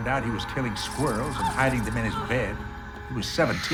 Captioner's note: gasps